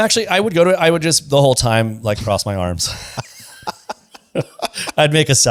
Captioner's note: laughs